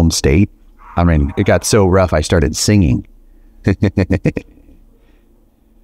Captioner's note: laughs